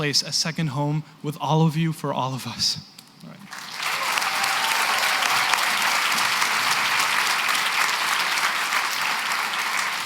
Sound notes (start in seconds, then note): 3.4 applause